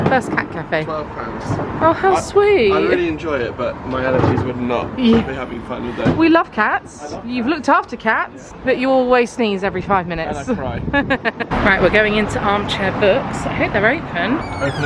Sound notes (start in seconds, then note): 10.3 laughing